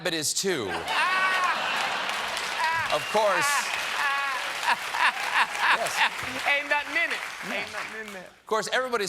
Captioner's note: laughter